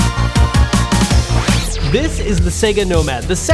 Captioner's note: electronic squeal